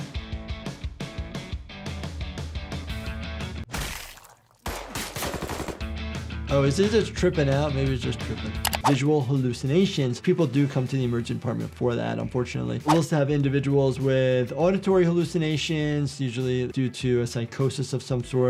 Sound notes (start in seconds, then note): 0.0 rock music; 4.6 gun fires